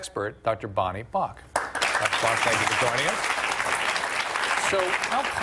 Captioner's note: applause